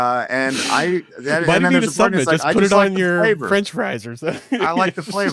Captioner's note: laughs